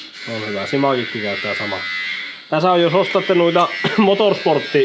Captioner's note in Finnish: rykäisee